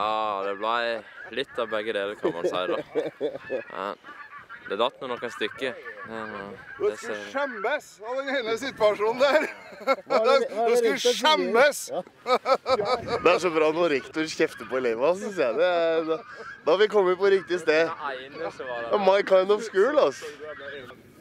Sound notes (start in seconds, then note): 9.2 giggles